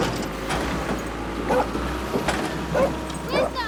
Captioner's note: dog barking